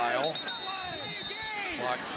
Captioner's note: whistling